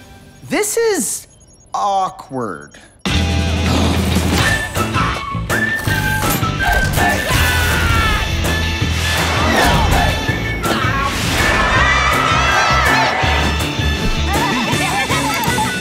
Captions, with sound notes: This is... awkward. [theme music playing] Aah! [crowd cheering] [all laughing]